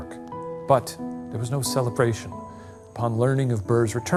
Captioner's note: insects chirping